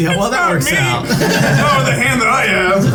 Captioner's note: players laughing